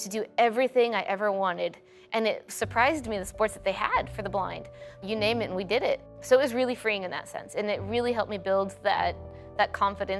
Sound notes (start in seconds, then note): none